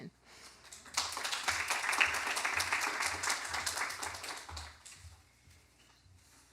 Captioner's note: applause